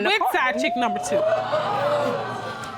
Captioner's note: audience gasping